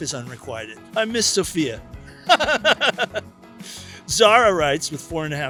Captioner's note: laughs